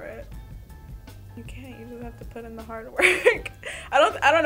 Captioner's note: chuckles